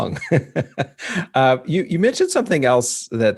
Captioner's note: laughing